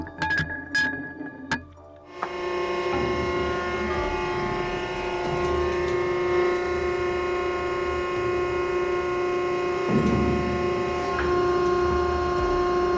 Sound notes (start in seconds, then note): 0.0 metal clanking; 2.4 machine whirring